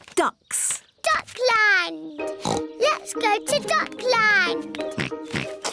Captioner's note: oinks; oinks